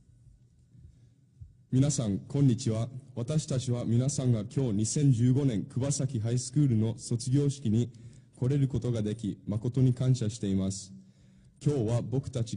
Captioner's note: speaking in Japanese